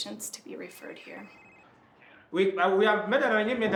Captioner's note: phone Rings